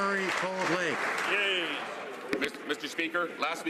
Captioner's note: some Applause